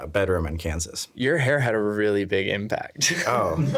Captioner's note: laughing